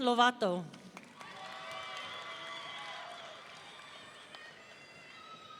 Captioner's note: audience cheering